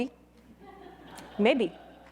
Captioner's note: audience laughing